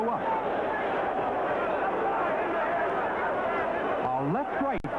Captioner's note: crowd cheers